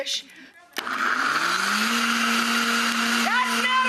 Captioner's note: blender whirring